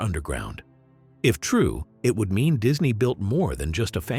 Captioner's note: voiceover